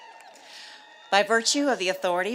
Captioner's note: cheers and applause